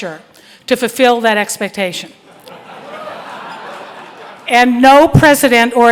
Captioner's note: crowd laughing